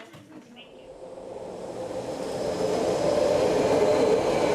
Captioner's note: car engine roaring